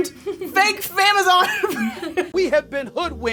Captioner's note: girl giggles; coughs